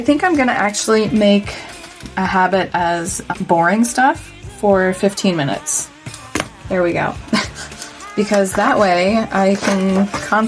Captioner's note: laugh